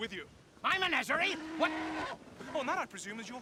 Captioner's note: horse moans